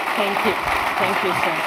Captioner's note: audience applauds